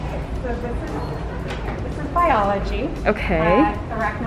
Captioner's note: door beeps